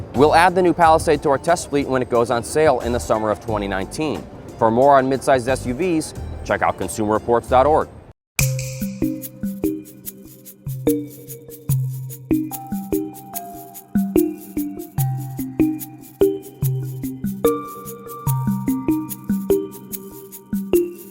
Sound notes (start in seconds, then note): 7.7 tinkling